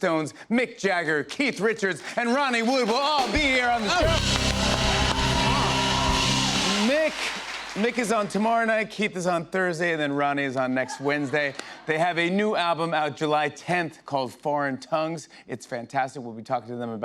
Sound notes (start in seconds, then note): 2.4 cheers and applause